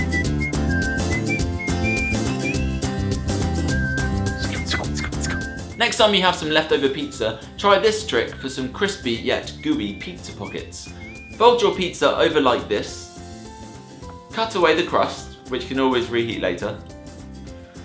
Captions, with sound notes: (cheery instrumental music) (quick swishing) Next on, we have some leftover pizza. Try this trick for some crispy, yet gooey pizza pockets. Fold your pizza over like this. Cut away the crust which you can always reheat later.